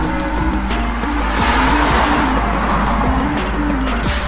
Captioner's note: cars roaring